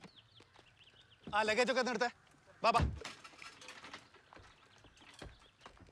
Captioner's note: speaking foreign language